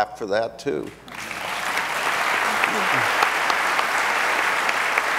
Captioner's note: audience applauds